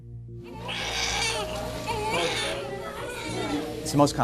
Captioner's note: baby crying